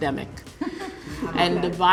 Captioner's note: laughs